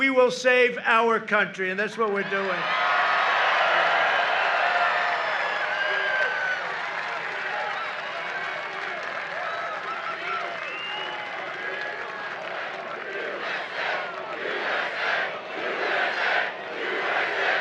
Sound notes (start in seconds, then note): 6.5 applause; 11.3 chanting